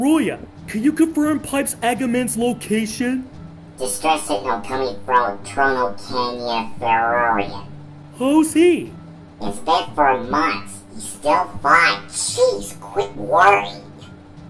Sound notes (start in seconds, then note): none